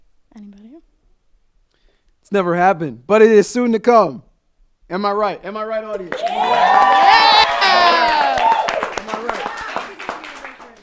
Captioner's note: applause